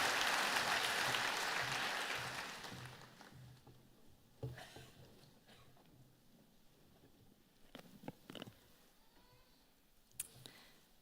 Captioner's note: applause